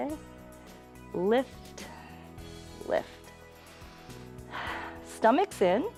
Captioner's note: inhales and exhales